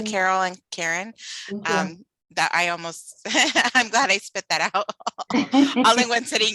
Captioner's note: laughter